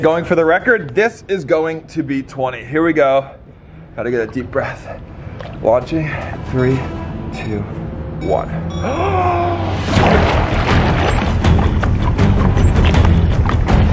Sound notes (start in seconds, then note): 7.5 inhales; 10.5 fast paced music